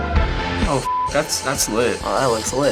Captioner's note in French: bip